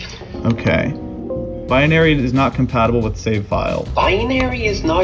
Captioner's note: Windows alert sound